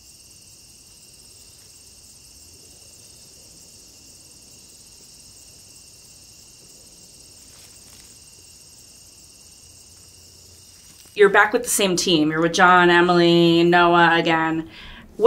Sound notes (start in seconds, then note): 0.1 forest insects chirping; 8.1 footsteps rustling